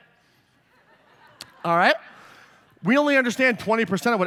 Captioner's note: laughter